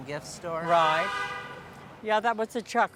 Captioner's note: car Horn